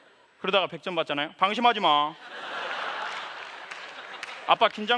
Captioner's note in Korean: 웃음